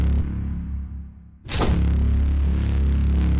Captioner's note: body slams to floor